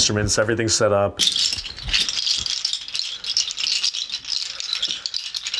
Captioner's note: shells rattling